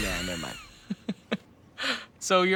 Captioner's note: laughs